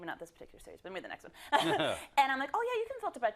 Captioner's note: laugh